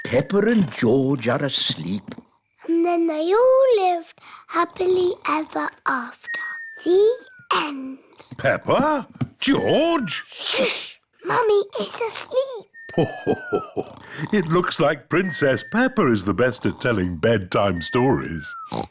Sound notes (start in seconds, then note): 6.3 snoring; 12.9 laughs; 18.6 oinks